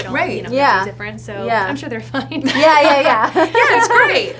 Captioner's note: laughs